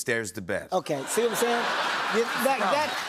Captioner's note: laughter